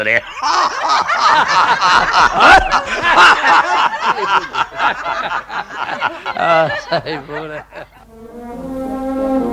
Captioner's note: all laugh out loud